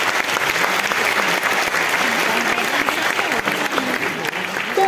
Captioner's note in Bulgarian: аплодисменти